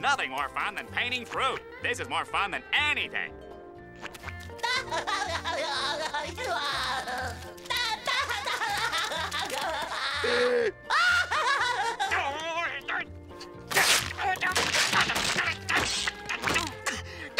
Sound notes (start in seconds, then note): 4.3 SpongeBob laughing; 10.0 gasping; 10.6 SpongeBob laughing; 13.4 grumbling